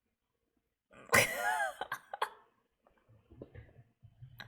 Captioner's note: laughs